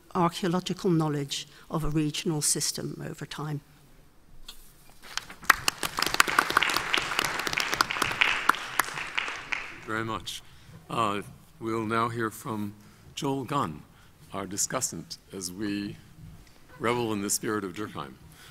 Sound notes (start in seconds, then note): 5.0 audience applauds